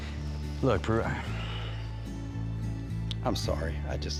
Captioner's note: sighs